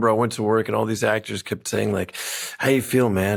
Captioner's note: inhales